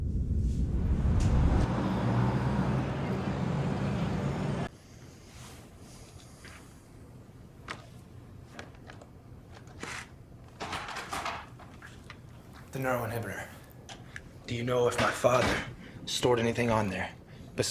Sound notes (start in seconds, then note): 0.8 traffic humming; 1.0 birds chirping; 10.7 door clicks